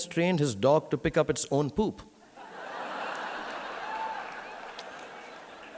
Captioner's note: audience laughing